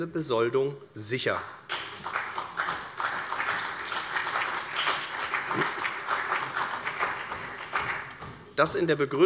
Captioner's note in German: Beifall CDU und vereinzelt BÜNDNIS 90/DIE GRÜNEN